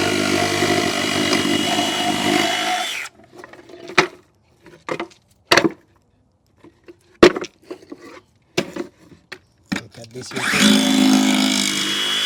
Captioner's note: saw Cutting Sound